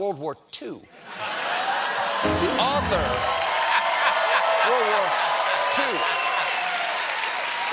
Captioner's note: cheers and applause